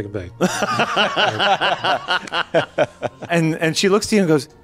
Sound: laughing

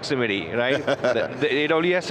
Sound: chuckles

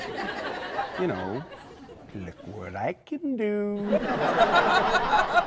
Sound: audience laughs

